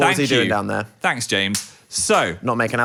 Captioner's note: plastic snaps